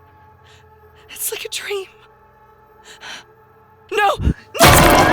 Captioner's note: panting